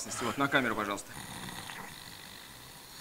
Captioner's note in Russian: храп